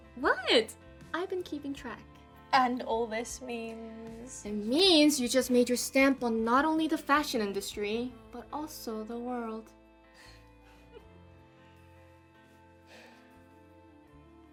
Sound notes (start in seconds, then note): 10.2 both chuckling